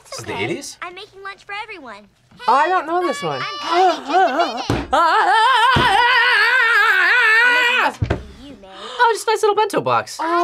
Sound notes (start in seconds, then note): 3.5 gasps; 5.1 yells; 8.2 gasps